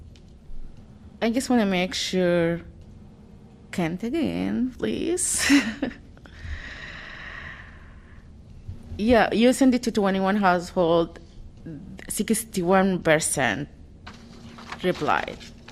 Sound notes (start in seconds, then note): 5.4 laughter